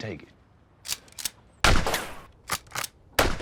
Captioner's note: gunshot; cocks rifle